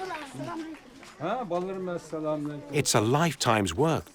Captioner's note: applause; speaking Uyghur